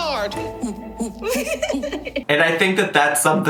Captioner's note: laughing